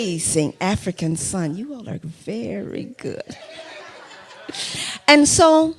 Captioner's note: laughter